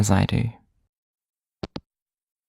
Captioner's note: hangup